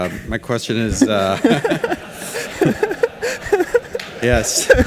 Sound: laughing

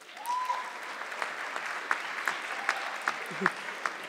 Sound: audience clapping

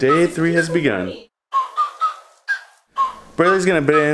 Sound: whistling

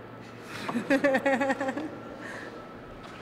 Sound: laughs

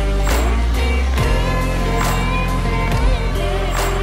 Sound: power tools whirring

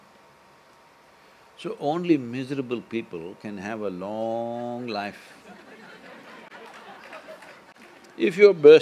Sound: laughter

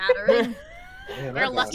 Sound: group laughing

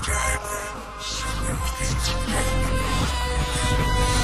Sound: vitruvius chanting in magical language

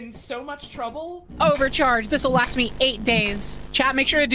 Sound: charging sound repeats

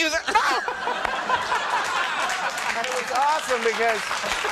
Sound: laughing; crowd applauding

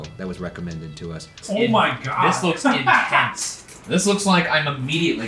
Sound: laughing

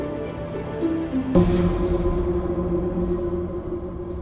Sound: loud bang

